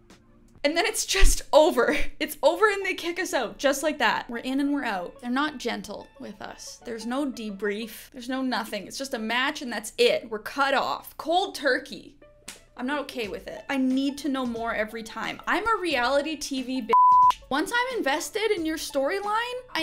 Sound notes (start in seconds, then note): 16.9 beep